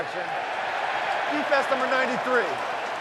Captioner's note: cheering